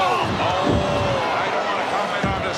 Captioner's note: crowd boos